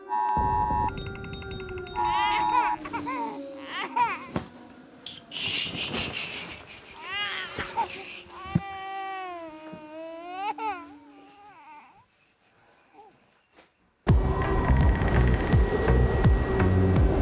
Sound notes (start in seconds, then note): 0.4 sounds of explosions; 2.0 Poe crying